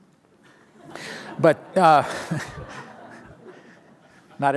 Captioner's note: laughter